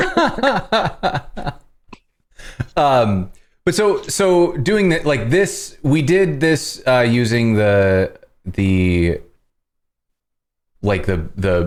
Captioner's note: laughter